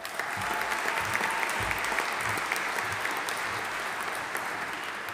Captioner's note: audience applauding